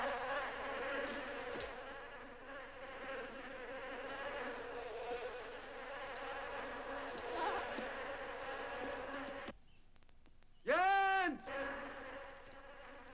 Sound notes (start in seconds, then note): 7.2 goat bleats; 10.4 birds chirping; 10.9 mosquitoes buzzing